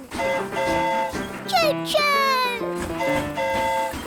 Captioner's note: train horn hooting